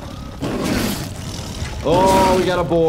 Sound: explosion; growling

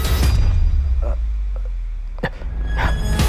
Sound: struggle Sounds

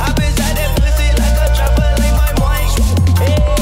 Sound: swoop

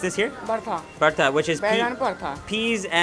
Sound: speaks in foreign language

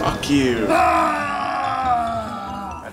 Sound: yelling

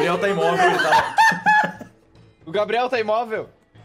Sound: laugh

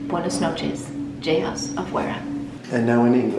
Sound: speaking in foreign language

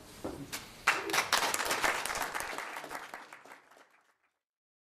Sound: applause

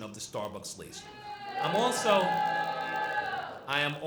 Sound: students booing

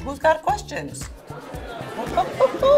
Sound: chuckling; people chattering

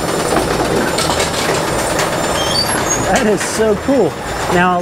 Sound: machine whirring

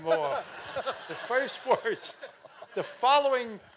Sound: audience laughing

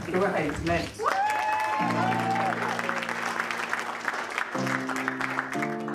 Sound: audience cheering and applauding

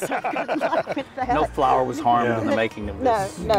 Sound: laughter

